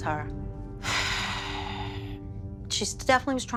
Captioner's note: sighs